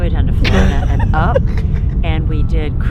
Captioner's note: person laughing